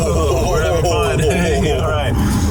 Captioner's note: laughs